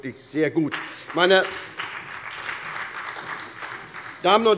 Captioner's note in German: Beifall bei der SPD